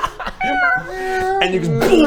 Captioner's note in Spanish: miau; booosh